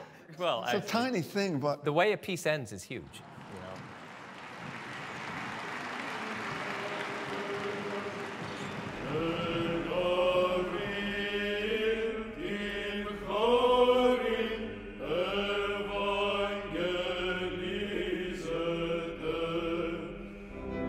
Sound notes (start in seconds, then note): 9.0 chanting